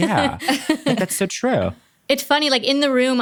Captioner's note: laughs